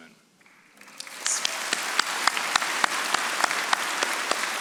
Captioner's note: audience applauding